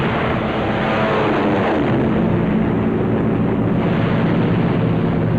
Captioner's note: heavy gunfire and aircraft noise